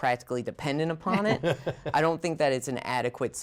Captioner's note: laughter